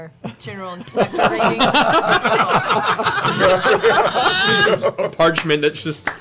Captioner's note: laughter